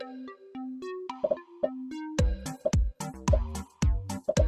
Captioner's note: upbeat music; popping